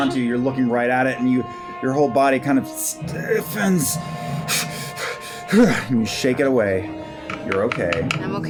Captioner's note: buzzing; panting